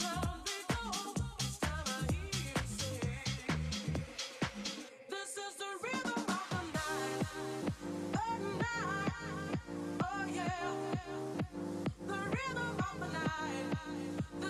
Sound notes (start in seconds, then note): none